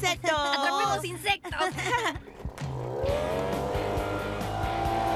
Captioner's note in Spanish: rugido de motor